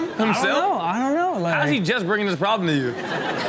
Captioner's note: audience laughs